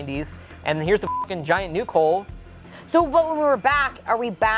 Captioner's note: beep